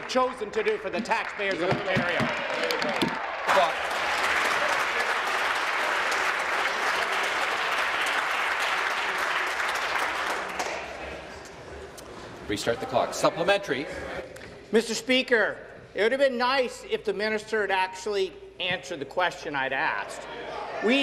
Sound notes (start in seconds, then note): 5.1 applause